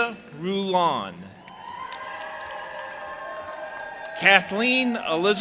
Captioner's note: audience applauding and cheering